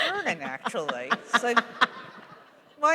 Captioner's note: laughter